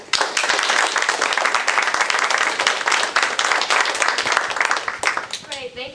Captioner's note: applause